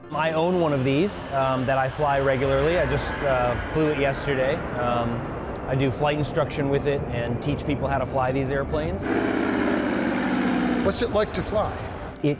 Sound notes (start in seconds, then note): 9.4 plane rumbling